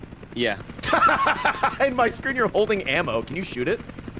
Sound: laughs

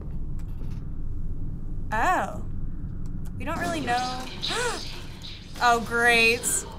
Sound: gasps

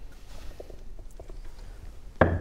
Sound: bone-cracking shake; thud

